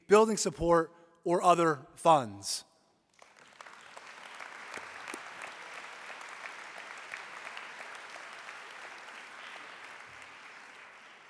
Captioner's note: applause